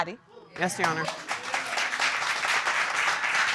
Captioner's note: audience applauding